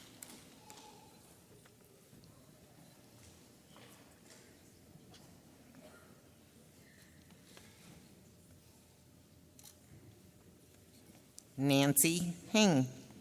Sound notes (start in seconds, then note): 6.3 camera clicks